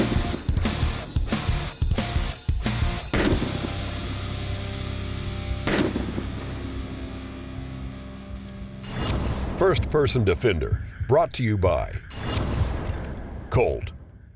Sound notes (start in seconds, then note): 0.2 slow motion gun shot